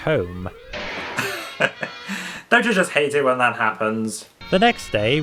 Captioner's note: chuckles